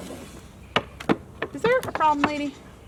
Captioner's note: goat stomping